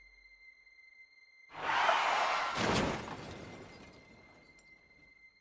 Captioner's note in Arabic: انزلاق الإطارات; تحطم